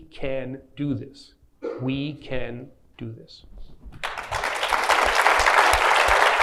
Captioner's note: clapping